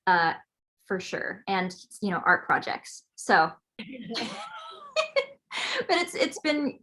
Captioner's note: laughs